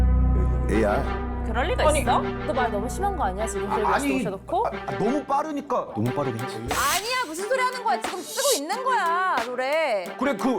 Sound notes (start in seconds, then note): 6.7 Sound effect of defending Greg